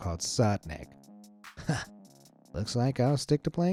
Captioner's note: chuckles